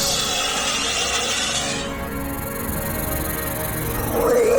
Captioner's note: snake screeches; snake growls